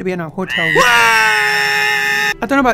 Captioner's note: screaming